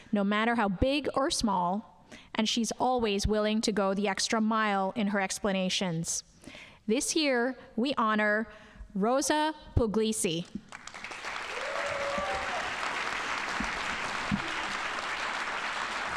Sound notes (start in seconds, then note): 10.7 audience applauding